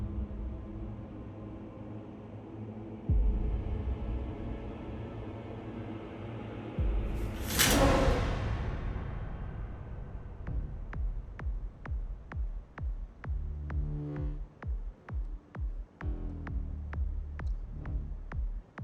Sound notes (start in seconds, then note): 7.2 shower curtain whooshing; 10.6 sensual beat music